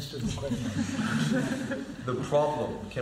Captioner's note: laughter